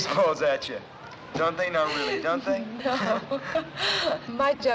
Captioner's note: laughing